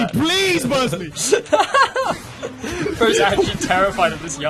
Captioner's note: laughing